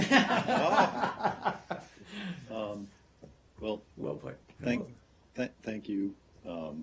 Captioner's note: laughter